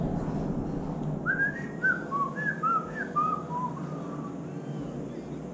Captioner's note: whistles